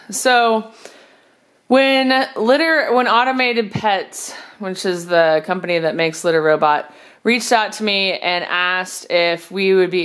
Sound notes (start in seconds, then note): none